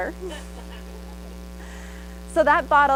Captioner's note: audience laughs